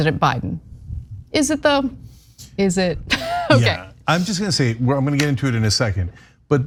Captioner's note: laugh